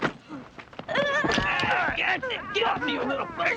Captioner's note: both groaning